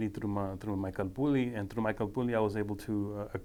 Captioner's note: speaking foreign language